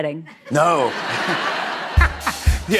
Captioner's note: laughter